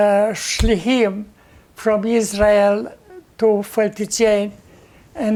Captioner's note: hebrew